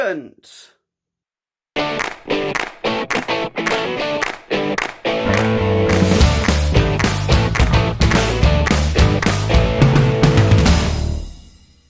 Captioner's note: claps